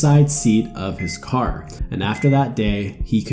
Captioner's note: machine beeping